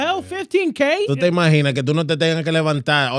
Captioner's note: speaking In Foreign Language